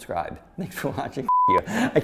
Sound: laughing

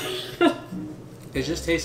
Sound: laughs

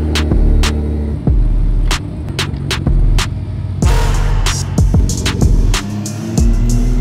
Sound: car engines starting; upbeat music

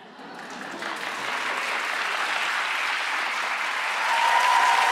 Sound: audience applauding

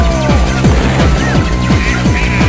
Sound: explosion

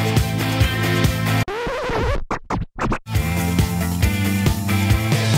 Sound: record scratching

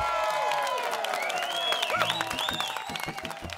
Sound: cheering

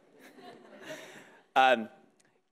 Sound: audience laughing

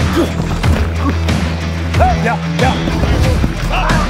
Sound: grunting

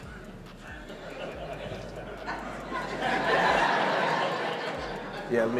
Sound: audience laughs

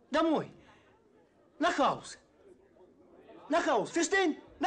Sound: speaking German

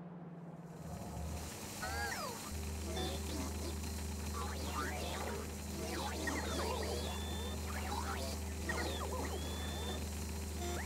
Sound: loud machine sounds

